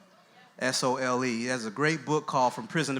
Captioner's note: voiceover